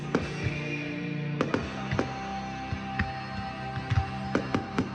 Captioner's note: firecrackers booming